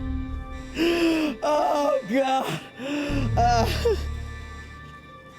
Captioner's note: sobbing